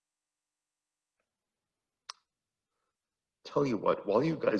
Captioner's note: none